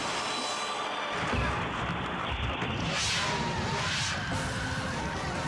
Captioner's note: gun firing; dramatic music